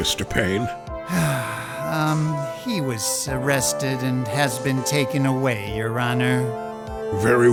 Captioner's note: sigh